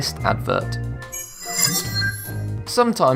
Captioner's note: sharp chiming